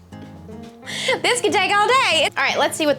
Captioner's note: laughs